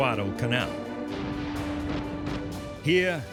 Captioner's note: gunfire